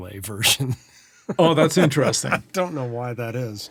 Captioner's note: laughing